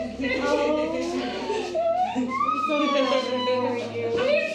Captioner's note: squealing